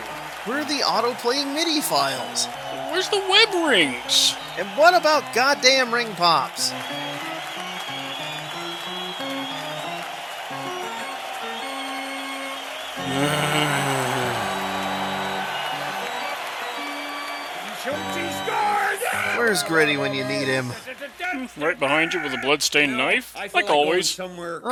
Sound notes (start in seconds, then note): 12.9 exasperated noise instead of "charge"